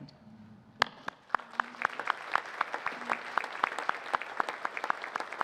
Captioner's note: audience applauding